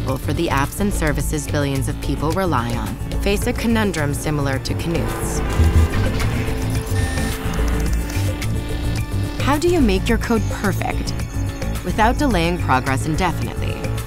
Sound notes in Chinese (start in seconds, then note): 5.3 交通噪音; 6.1 機器發出的聲響; 7.4 按鍵盤的聲音